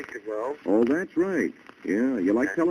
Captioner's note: on phone